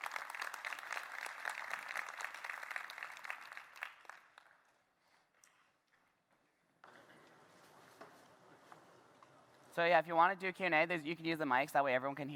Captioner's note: applause